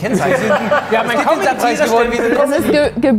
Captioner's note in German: Stimmengewirr